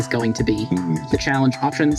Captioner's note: democracy-anticipating noises